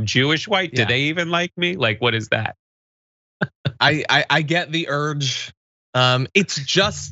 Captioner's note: laugh